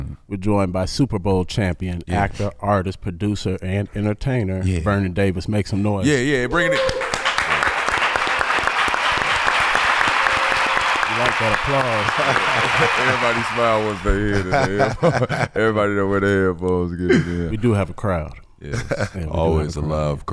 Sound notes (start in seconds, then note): 7.4 audience cheering; 8.2 audience applauding; 14.8 laughing